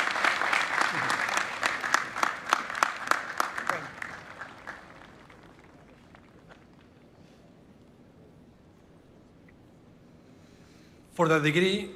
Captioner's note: applause